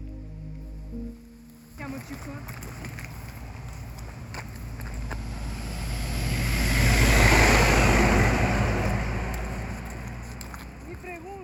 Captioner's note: gentle music; speaking foreign language